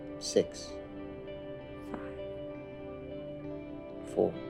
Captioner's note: quietly